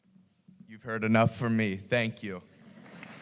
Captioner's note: applause